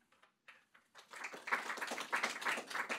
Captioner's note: applause